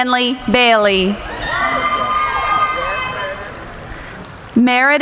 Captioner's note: cheering